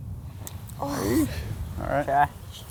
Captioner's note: sighs